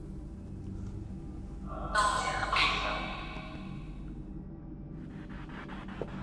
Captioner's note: radio noise from the spirit box